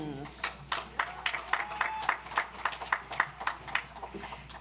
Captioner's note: audience applauds